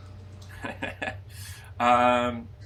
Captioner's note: laughter